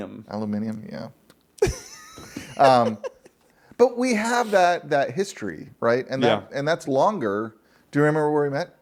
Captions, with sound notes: Aluminium, yeah. (laughing) But we have that history, right? And that's longer. Do you remember where we met?